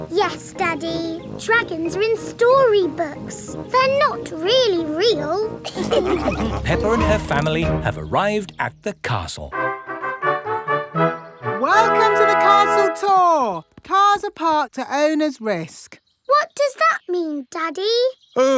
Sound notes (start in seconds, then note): 5.6 all laughing; 9.5 fanfare playing